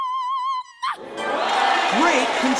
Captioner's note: crowd cheers